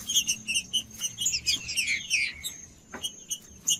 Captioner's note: trinca ferro cantando